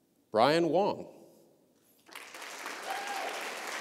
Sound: applause

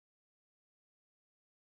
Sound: none

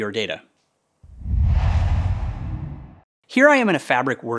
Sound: logo swooshes

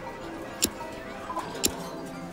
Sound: trigger clicks

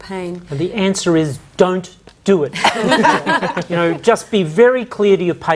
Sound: all laugh

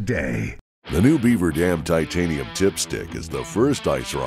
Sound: voiceover

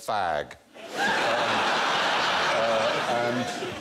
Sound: laughter

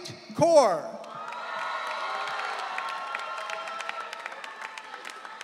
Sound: audience cheering

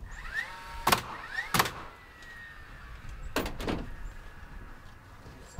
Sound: nails banging loudly

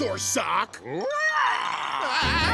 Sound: roaring; screaming

